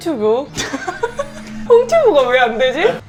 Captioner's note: broadcasting genius adopting a hosting tone